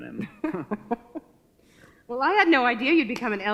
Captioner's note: chuckles